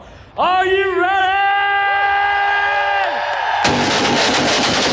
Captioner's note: crowd cheering